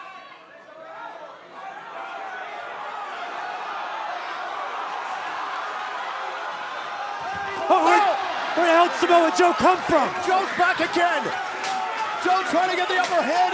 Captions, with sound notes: [CHEERS AND APPLAUSE] >> WHERE THE HELL DID SAMOA JOE COME FROM? >> JOE IS BACK AGAIN.